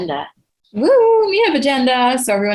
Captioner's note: exclaims